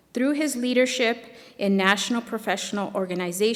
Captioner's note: none